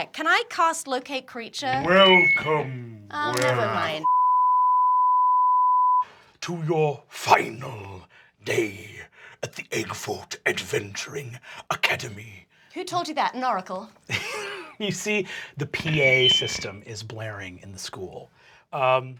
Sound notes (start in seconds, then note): 4.8 beeping; 14.1 laughing